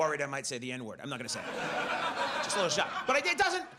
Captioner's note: audience laughs